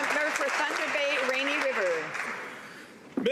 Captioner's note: some Applause